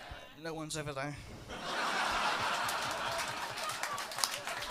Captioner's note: laughter